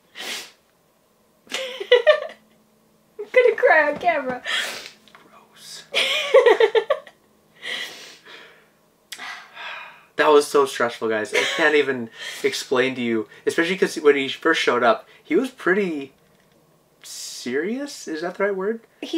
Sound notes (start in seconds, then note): 1.5 laughs; 5.9 laughing; 9.1 both sighing